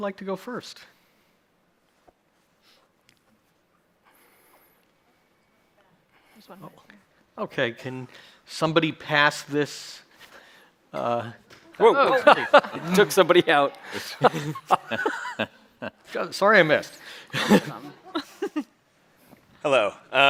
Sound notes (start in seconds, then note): 11.8 chuckles